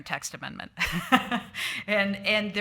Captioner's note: chuckles